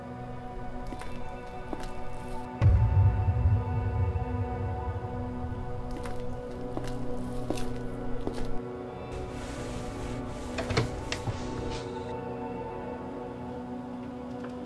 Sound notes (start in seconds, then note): 0.8 footsteps; 5.6 footsteps; 9.9 door opening